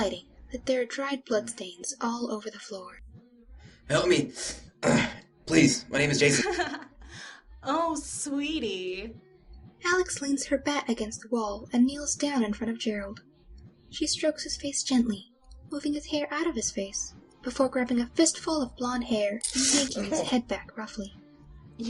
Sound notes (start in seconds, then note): 5.9 laughs; 7.0 pained gasps; 18.7 Jason gasping in pain